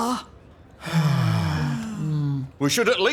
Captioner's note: sigh